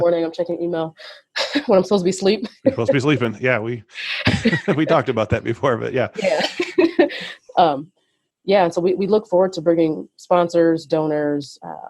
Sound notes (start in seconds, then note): 4.0 laughs; 7.3 laughs